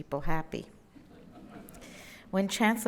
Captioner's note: laugh